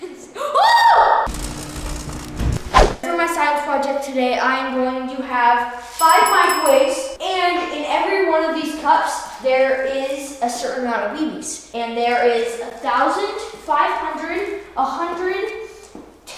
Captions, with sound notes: - (laughs) Oh! (electricity crackling) For my science project today, I am going to have five microwaves, and in every one of these cups there is a certain amount of BBs. And there is 1,000, 500, 100,